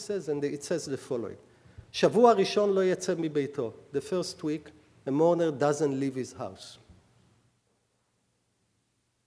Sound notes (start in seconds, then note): 0.0 speaking hebrew; 1.6 speaking hebrew